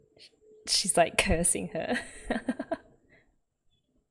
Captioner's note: laughs